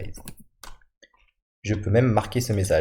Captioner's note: Clic